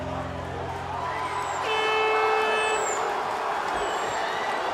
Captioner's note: horn blows